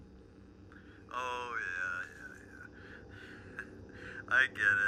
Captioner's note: laughs